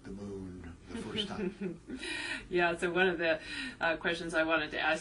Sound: laugh

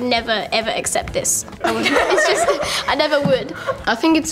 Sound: laughter

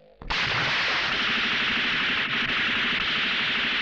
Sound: gun Firing

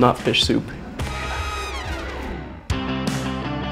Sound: whispers; upbeat rock music

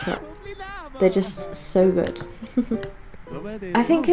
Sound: giggles

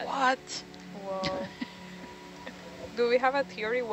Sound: person chuckles

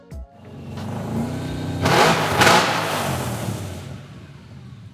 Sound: engine firing

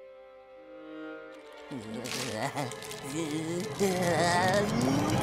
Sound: groaning

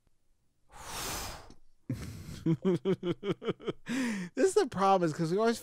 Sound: chuckles

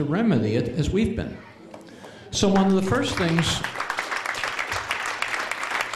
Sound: applause

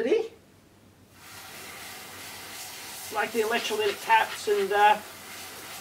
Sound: spraying sound

